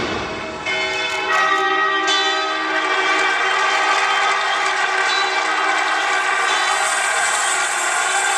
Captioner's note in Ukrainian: оплески